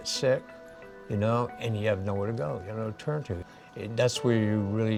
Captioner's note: none